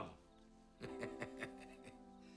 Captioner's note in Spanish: riéndose